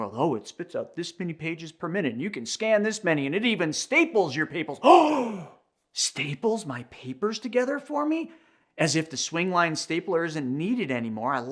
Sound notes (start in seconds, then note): 4.8 gasps